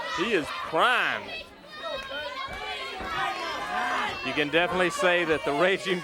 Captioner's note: crowd chatter